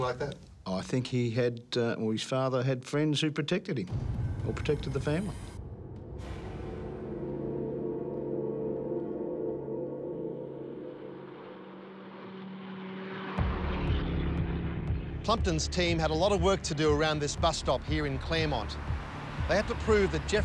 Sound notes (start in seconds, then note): 6.4 ominous music; 11.0 car engine revs